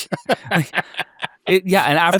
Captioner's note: laughing